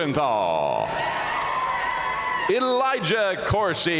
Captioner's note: audience cheering and applauding